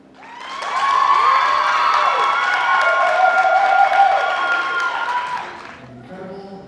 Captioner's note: applause